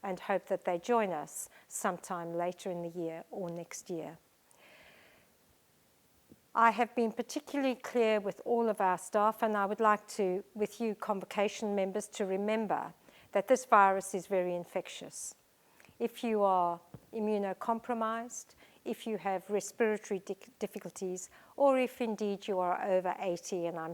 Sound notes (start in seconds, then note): 4.6 sigh